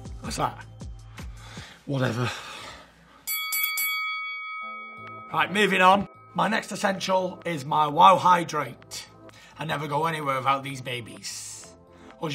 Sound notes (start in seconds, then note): 3.2 bell dings